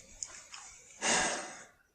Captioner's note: sigh